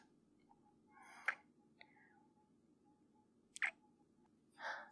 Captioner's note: kiss